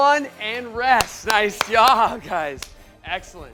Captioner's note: applause